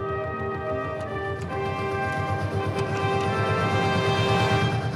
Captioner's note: engine rumbles